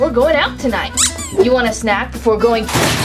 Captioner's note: squeak